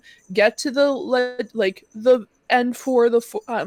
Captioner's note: none